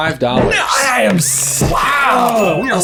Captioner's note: men exclaiming